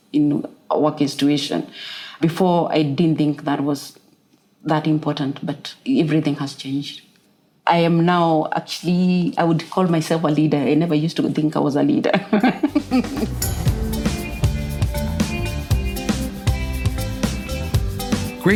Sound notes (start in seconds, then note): 15.2 laugh